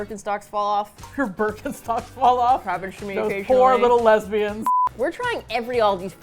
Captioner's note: laughs